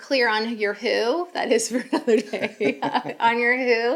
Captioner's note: laughs